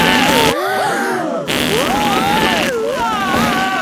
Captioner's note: both screaming; crowd gasps; screaming